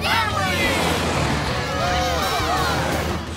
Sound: cheering

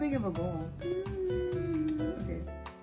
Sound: hums

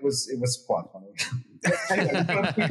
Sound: laugh

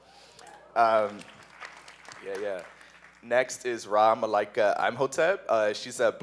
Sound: applause

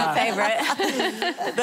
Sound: laughing

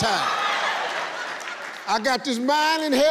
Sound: audience cheering

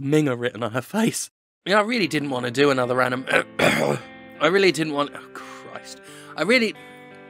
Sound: burp

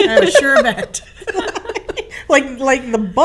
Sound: laughing

